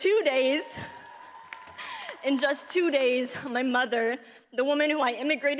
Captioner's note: audience cheers